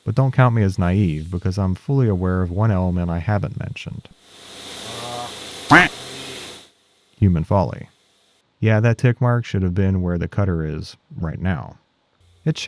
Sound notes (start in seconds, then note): 5.7 duck quacking